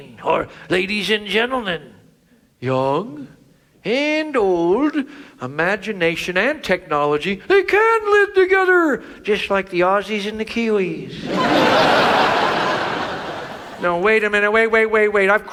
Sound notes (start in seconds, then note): 11.1 audience laughs